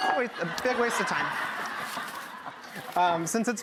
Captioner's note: laughing